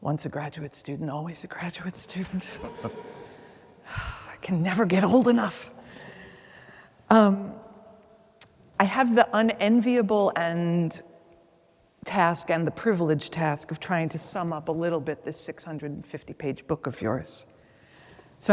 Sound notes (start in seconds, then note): 2.6 chuckles